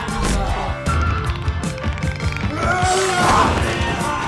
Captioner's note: groaning